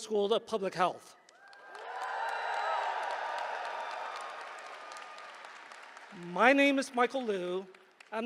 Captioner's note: applause